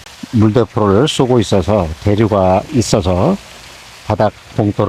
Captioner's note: water current